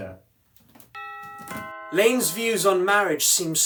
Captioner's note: doorbell rings